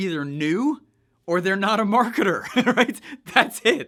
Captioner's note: laughs